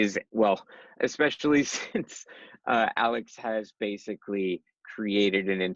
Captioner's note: laughs